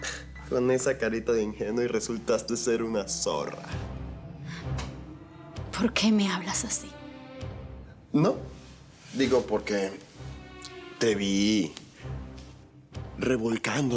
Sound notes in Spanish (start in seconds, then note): none